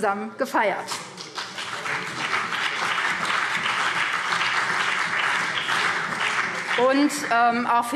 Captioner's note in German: Beifall BÜNDNIS 90/DIE GRÜNEN und CDU